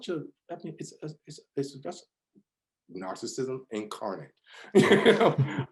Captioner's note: laughs